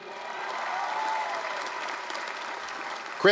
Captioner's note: applause, cheering